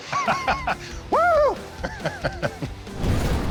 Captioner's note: laughter